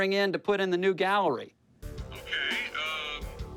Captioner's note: on phone